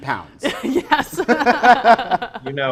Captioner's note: laughs